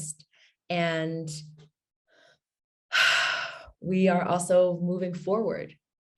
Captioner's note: exhales loudly